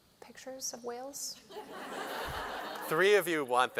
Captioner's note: laughter